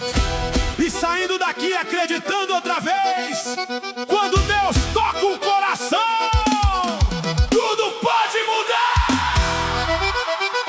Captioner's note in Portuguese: grito